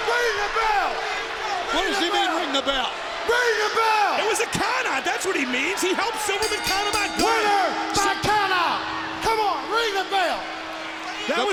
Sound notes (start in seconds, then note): 6.1 bell rings